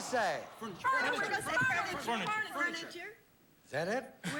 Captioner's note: all chattering